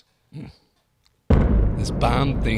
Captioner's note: exploding bang